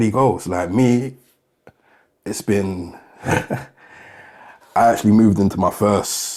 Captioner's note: chuckling